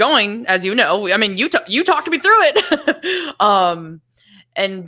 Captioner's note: laughs